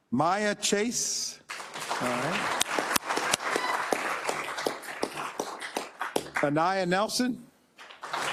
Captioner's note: applause